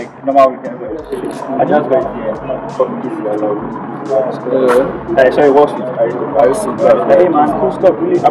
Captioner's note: voice note